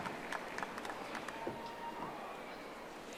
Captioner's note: audience applauding